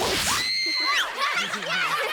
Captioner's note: screaming